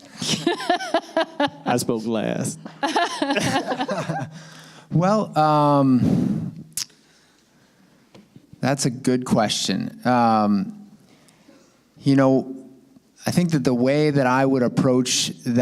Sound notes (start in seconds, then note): 0.2 laughter